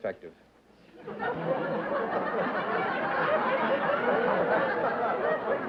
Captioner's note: laughter